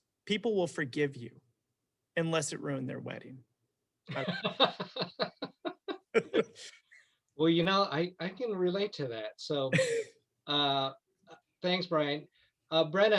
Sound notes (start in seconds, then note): 4.1 both laughing